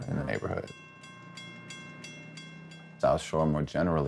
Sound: train bell dinging

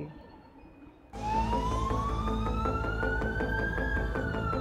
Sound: siren wailing

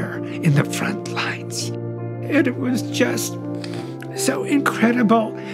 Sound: voice breaking

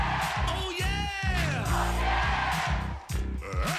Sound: crowd

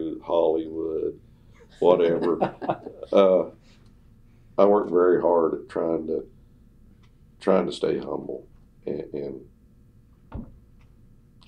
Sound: laughter

